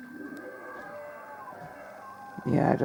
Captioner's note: demon dad roars